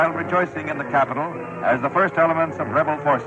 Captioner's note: archival news audio